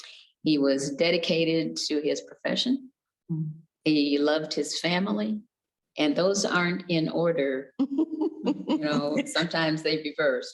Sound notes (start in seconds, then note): 7.8 giggles